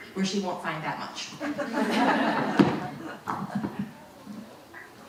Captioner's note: audience laughing